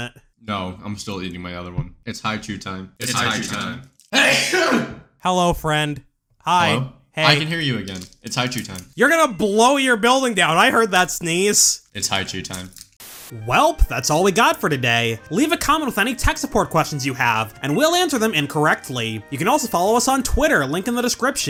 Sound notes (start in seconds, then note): 4.1 earthquake-inducing sneeze; 13.0 static